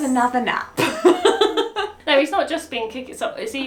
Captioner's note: laughs